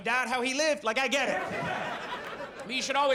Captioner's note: audience laughs